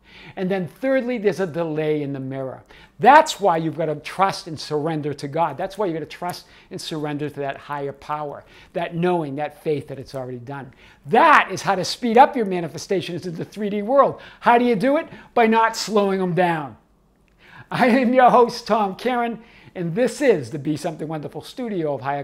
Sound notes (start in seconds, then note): 17.7 laughs